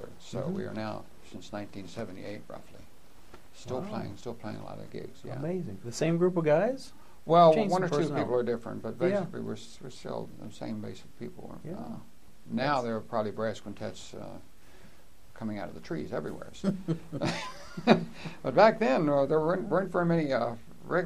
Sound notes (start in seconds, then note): 16.6 laughter